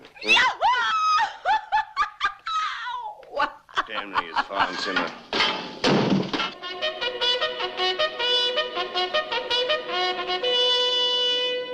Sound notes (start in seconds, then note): 5.0 Mary laughs; 6.5 reveille plays